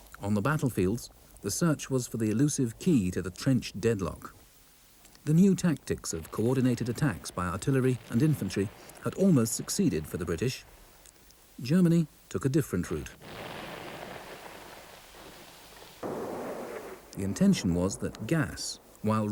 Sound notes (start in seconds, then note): 15.9 cannon bangs